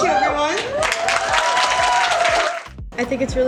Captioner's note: audience clapping